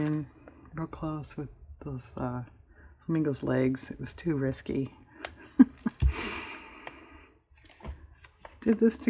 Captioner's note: laughs